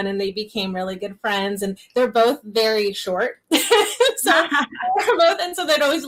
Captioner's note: laughs